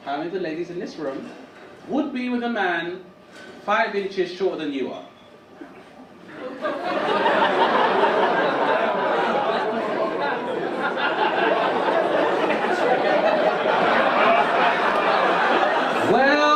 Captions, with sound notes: how many of the ladies in this room would be with a man five inches shorter than you are? (audience laugh)